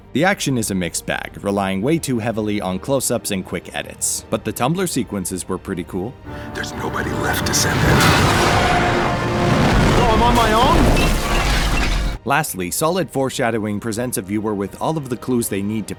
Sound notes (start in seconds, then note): 8.1 engine roaring; 11.0 stone breaking